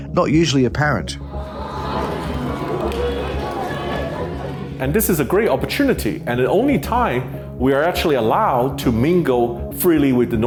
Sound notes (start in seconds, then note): 1.2 crowd talking